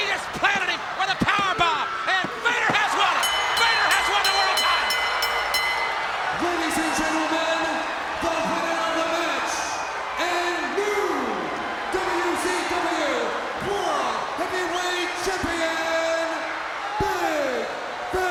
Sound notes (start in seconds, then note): 5.6 bell ringing